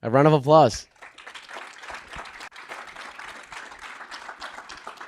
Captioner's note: audience applauding